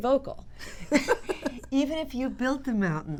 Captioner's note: laughter